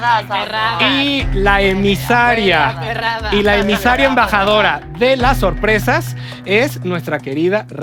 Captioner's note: chanting